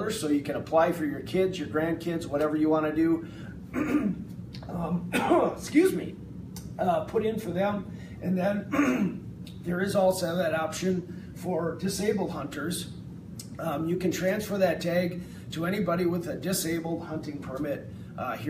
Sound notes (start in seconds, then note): 5.0 coughs